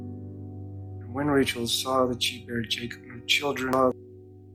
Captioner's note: voiceover